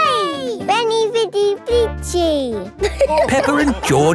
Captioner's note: all laughing